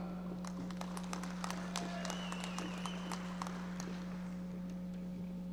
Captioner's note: audience applauding